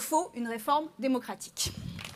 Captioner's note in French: Applaudissements